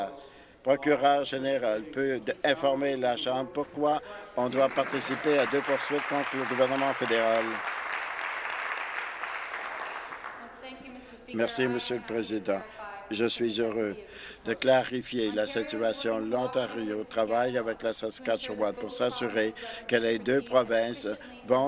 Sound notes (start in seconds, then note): 8.3 applause